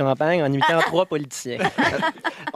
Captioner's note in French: rires